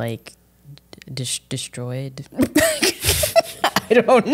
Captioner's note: laughs